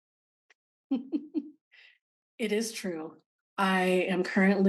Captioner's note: chuckling